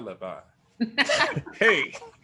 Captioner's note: laughs